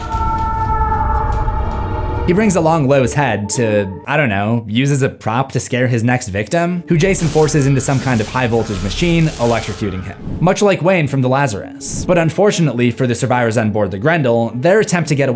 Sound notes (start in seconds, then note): 0.0 screams